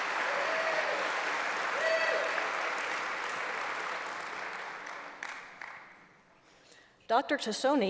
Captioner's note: applause